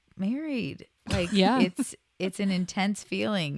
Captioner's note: laughs